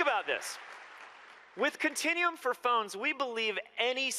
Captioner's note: applause